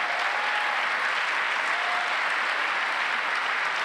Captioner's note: applause